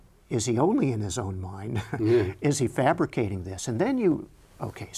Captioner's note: chuckles